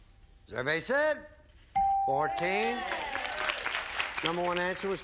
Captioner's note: applause